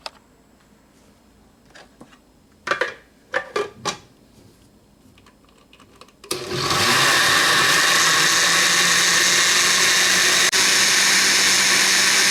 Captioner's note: blending